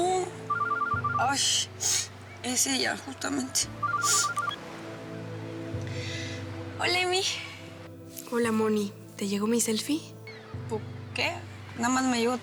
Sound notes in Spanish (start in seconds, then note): 1.1 suena el celular